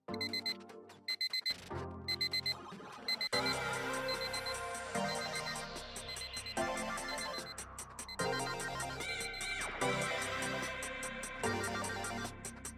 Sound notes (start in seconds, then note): 2.0 alarm clock beeping; 2.8 futuristic music